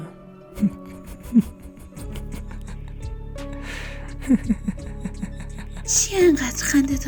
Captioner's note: laughter